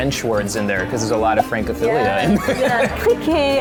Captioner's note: laughing